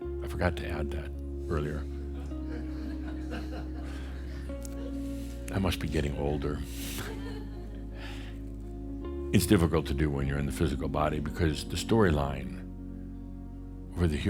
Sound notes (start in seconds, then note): 3.6 some chuckles; 6.9 chuckles